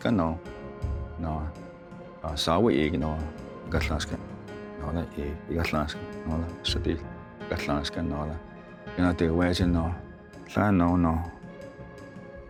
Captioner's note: tells story in Cherokee language